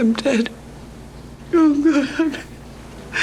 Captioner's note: crying